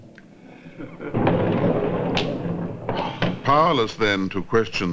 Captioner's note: chuckling